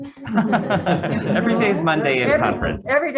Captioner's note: all laughing